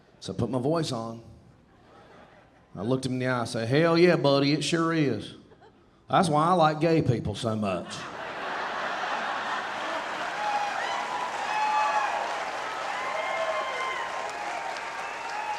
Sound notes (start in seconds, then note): 1.8 audience laughing; 8.0 audience laughing, cheering and applauding